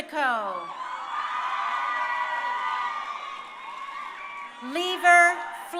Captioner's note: crowd cheering